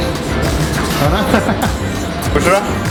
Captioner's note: laughs